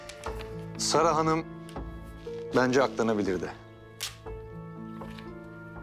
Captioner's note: paper breakout sound